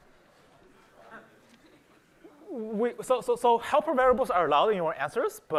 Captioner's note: laughter